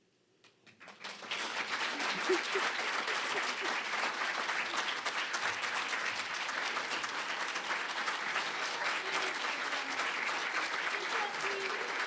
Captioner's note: applause